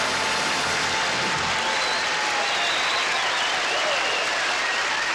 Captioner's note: cheering